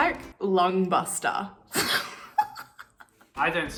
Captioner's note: laughing